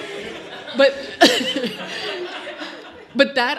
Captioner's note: audience laughs